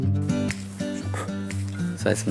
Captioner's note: puff!